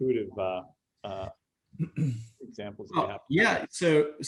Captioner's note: clears throat